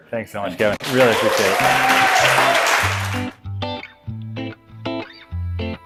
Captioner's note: cheering and applause